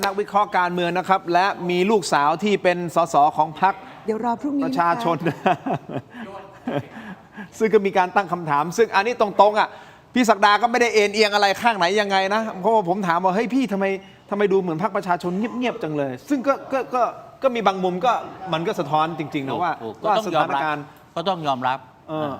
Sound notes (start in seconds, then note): 5.0 laughter